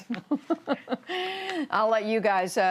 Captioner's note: laughter